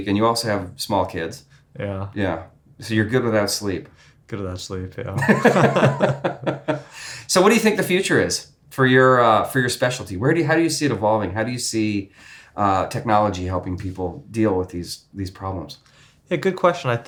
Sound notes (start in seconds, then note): 5.2 men laugh